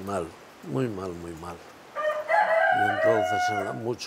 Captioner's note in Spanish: cacareo